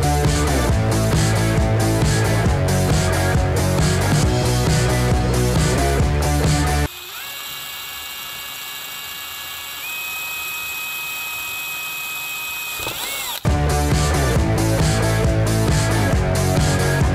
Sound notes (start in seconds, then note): 6.4 drill whirring; 13.5 upbeat music